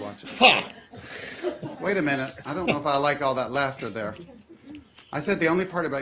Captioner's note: laughter